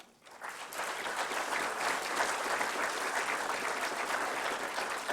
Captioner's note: applause